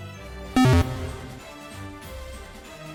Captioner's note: Pokédex Closes